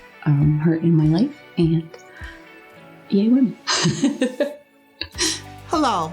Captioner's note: laughs